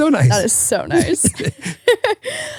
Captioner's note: laughing